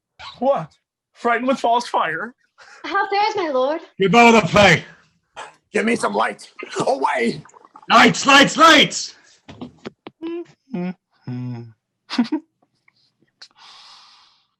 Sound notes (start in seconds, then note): 10.1 Hamlet chuckling